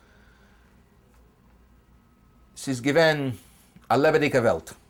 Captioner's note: speaking German